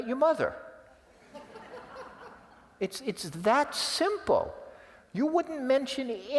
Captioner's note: laugh